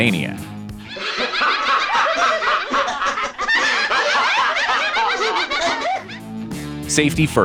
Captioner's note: maniacal laughter